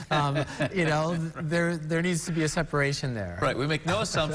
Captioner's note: laughter